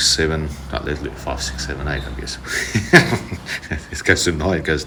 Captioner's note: chuckling